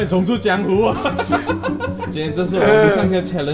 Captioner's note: the laughter that I hate is back